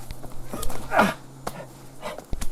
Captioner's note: stoke grunts